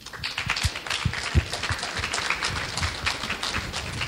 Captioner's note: clapping